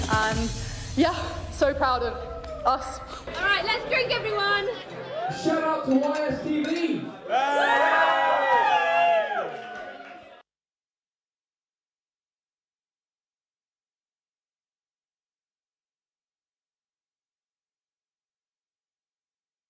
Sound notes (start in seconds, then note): 7.4 cheering; 10.5 silence